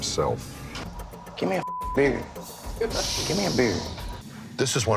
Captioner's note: beep